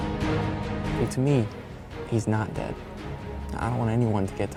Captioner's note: <i>in narrative voice</i>